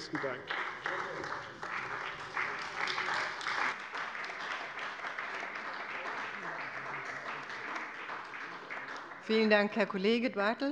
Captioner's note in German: Beifall bei der CDU und dem BÜNDNIS 90/DIE GRÜNEN